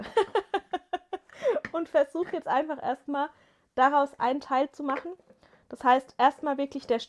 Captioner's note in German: gelächter